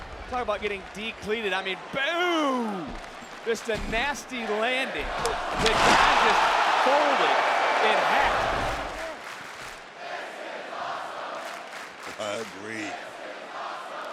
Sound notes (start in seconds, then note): 9.8 crowd chants "this is awesome"